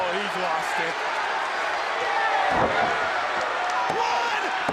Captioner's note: crowd cheering